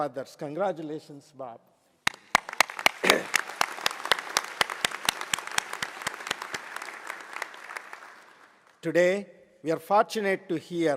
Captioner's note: applause